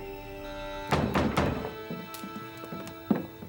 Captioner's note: banging